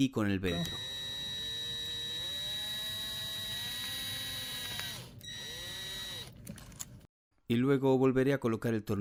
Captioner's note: Se oye el taladro